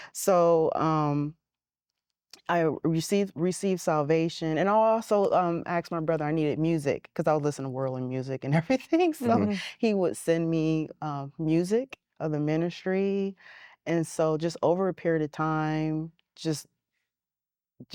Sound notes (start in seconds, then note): 9.2 giggling